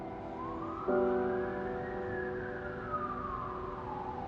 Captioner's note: sirens wailing